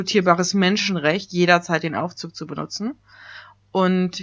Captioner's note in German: ironie